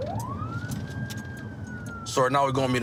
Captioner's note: siren